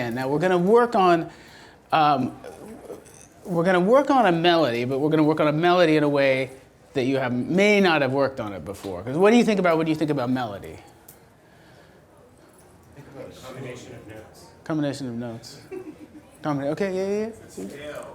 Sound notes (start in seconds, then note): 13.8 voiceover; 16.0 audience giggles